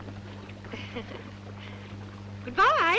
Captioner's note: woman chuckling